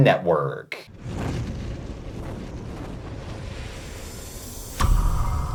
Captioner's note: air whooshing